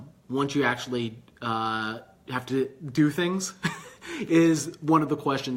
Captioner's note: laughing